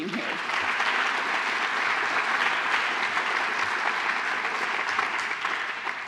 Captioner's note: applause